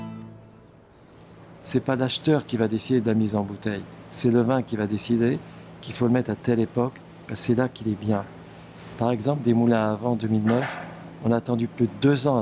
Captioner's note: speaking French